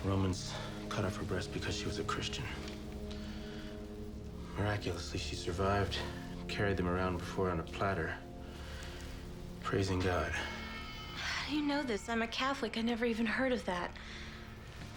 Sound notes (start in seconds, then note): none